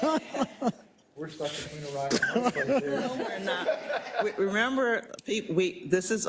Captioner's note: laugh